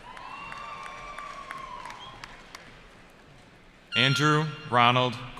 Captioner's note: cheering